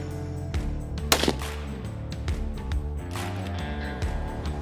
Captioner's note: gunshot; mellow country rock music continues